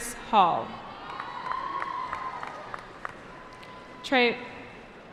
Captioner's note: cheering